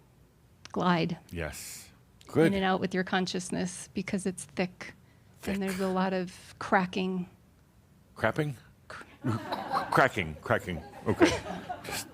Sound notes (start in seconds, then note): 8.4 some chuckles